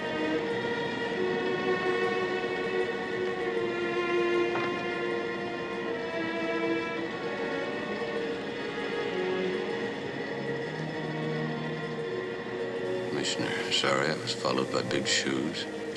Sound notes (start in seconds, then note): none